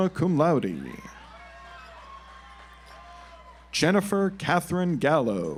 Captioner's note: audience applauds